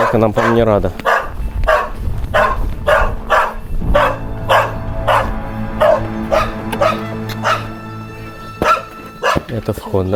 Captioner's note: dog barking